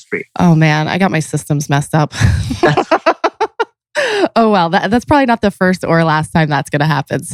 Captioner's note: laughs